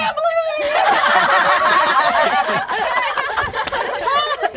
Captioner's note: everyone laughing